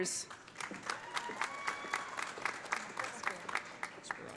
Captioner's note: audience applauding; audience cheering